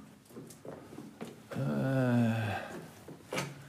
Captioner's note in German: Stöhnen